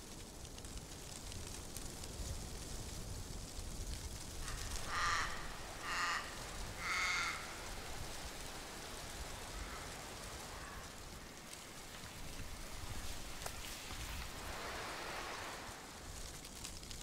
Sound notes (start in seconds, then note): 4.0 wind blowing; 7.5 birds cawing; 10.7 nature sounds